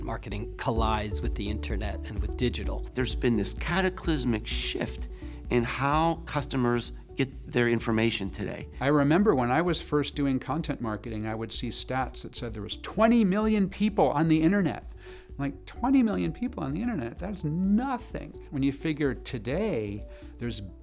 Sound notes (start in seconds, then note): 3.1 voiceover